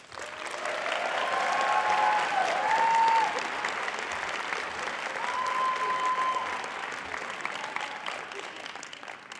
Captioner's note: applause